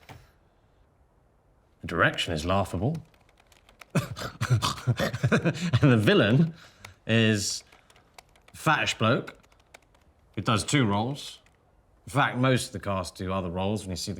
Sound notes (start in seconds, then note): 3.9 Danny laughs